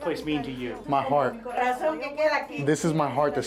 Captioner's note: in Spanish